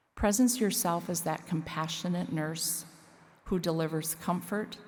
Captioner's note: none